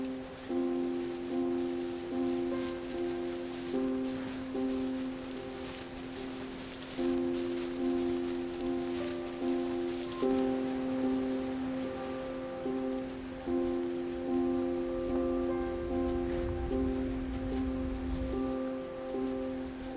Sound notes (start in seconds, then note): 0.2 gentle piano music; 6.9 insects chirping